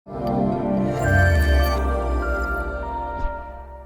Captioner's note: electronic humming